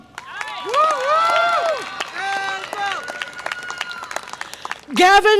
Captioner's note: audience applause and cheer